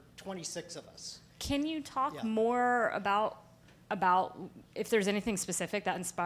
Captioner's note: voiceover